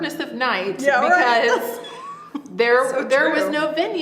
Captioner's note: laughs